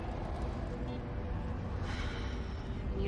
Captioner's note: sighs